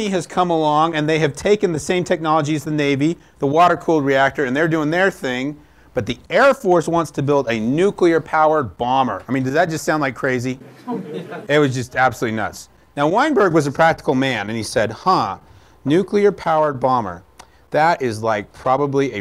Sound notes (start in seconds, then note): 10.6 laughter